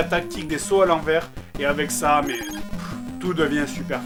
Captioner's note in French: Soupir